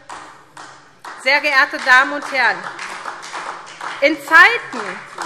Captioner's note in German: Beifall SPD